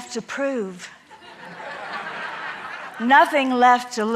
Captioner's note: audience laughing